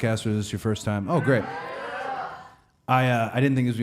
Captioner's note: audience murmuring